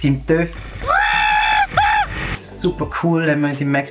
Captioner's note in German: animalistische Schreie purer Freude